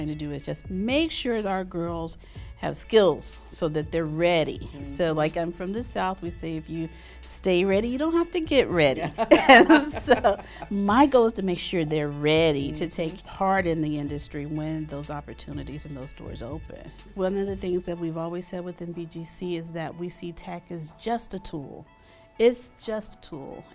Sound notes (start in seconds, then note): 8.9 laughing